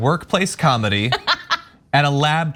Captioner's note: laugh